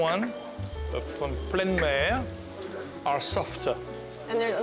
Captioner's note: speaks French